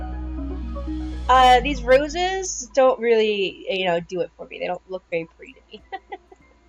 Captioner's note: laughter